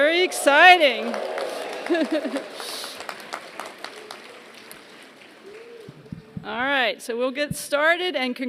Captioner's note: applause